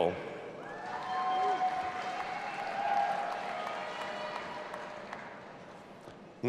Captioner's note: audience applauding and cheering